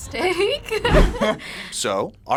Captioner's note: both laugh